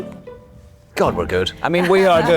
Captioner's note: Anne laughing